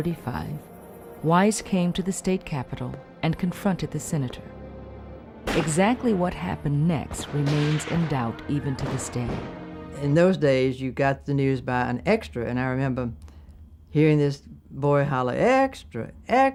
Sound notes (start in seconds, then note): 5.4 gunshot fires